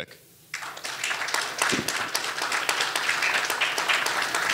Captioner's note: audience applauding